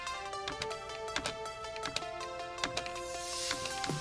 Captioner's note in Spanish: Pulsa teclas